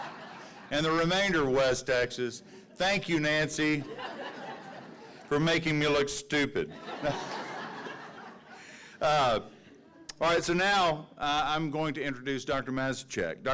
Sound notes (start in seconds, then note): 6.6 audiences laughing